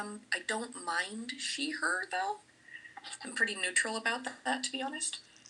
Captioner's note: none